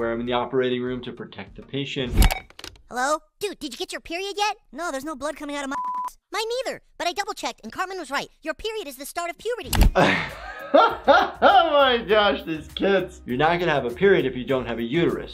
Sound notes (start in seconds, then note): 1.9 phone ringing; 9.9 laughs